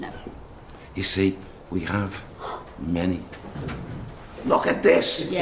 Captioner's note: gasps